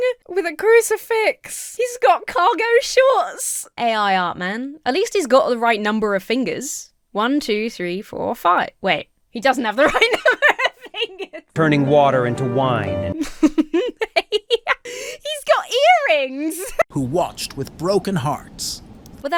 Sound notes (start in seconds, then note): 9.9 breaks into laughter; 13.1 laughs